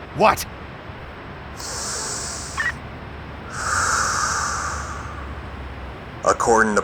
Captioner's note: radio man inhales and exhales deeply